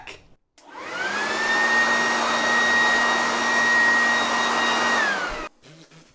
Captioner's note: leaf blower